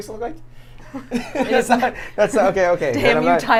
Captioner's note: laughs